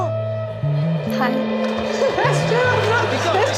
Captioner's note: gasps